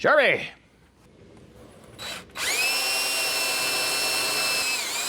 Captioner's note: drill Whirring